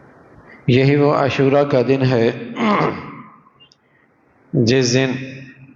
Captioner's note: groaning